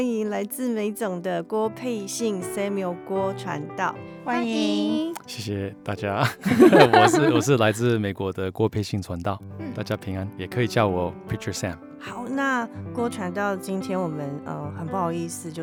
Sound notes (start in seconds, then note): 6.4 hehehe